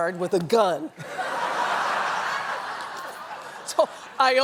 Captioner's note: laughter